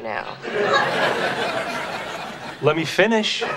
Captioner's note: audience laughing